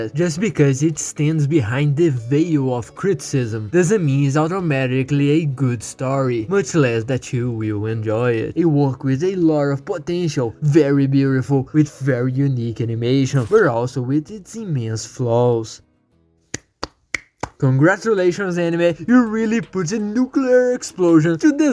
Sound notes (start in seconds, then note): 16.5 clap clap